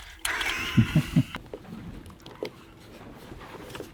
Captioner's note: laughing